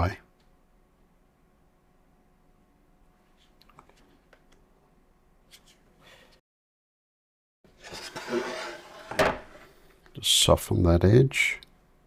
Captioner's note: silence